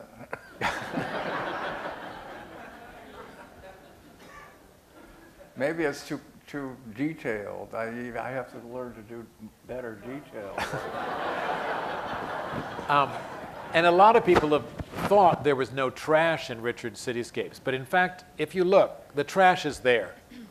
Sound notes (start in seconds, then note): 0.0 laughter; 10.5 laughter